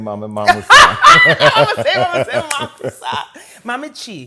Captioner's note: laughs